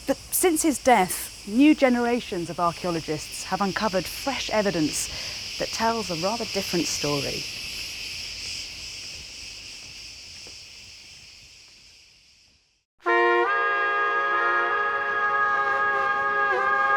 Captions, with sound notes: But since his death, new generations of archeologists have uncovered fresh evidence that tells a rather different story. (insects buzzing) (dramatic music)